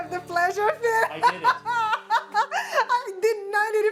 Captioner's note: laughs